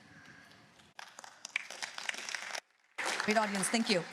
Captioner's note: applause